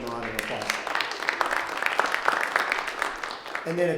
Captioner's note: audience clapping